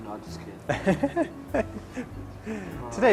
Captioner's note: laughs